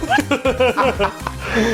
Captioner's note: laugh